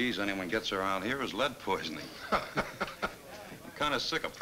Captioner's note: Bill chuckles